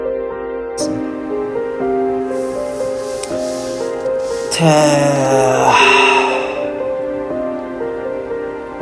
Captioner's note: sigh